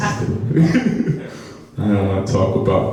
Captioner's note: audience laughs; laughs